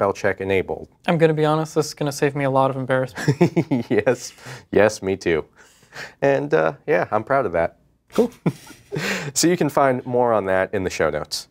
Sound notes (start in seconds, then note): 3.1 laughing